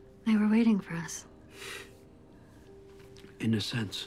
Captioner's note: scoffs